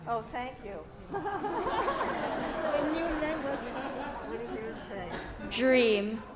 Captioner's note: laughter and chattering